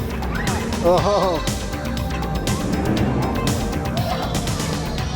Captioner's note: laughs